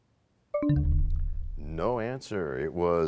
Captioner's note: bell chimes, time expires